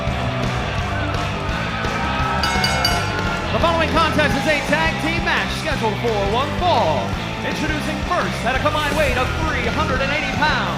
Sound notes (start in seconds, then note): 0.0 cheers and applause; 4.6 bell ringing